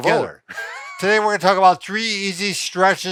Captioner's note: laughing